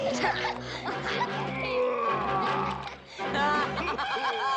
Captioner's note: laughing continues; groaning